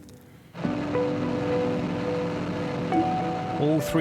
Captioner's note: motor roars